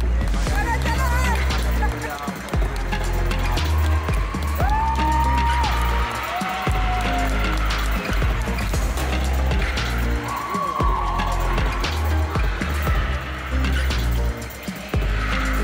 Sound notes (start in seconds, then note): 0.0 applause; 0.0 ♫ Midtempo guitar music ♫; 4.0 laute "Uhhhh"-Rufe; 4.0 loud oooooing; 14.3 ♫ Music slowly fading out ♫